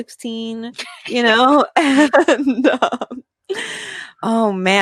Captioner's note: laughs